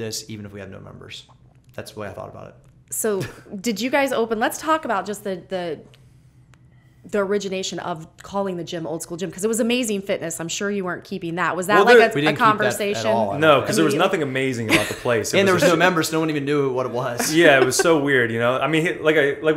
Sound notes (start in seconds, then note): 14.6 laughter; 17.2 laughter